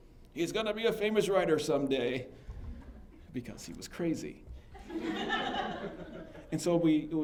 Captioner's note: laughter